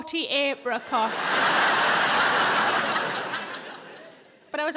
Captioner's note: audience laughing